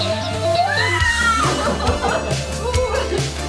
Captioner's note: screaming